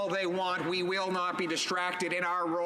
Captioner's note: some Applause